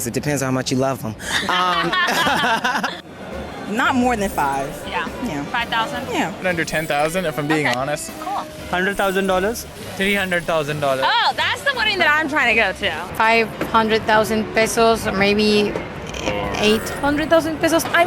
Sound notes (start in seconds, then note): 1.2 both laughing